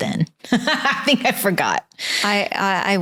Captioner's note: laughs